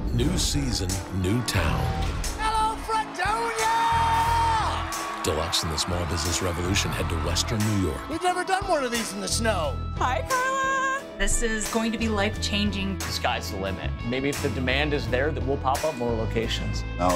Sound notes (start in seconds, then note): 3.8 crowd cheering